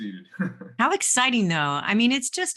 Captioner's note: chuckles